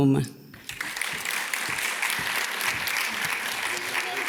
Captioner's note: audience claps